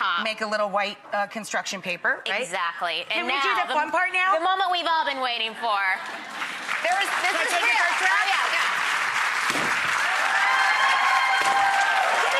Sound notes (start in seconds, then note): 6.0 applause; 9.7 cheering